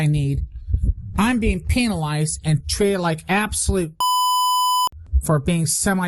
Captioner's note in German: Piep